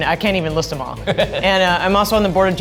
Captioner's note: laughs